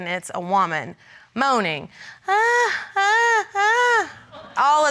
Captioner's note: immitates moaning